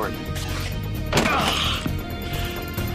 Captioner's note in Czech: Naštvané zavrčení